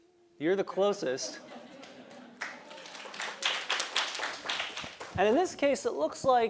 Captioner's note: laugh; applause